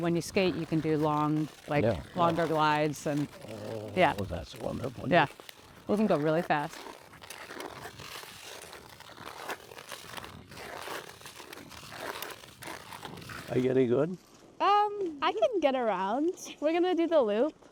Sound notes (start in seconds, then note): 7.0 skate blades carving ice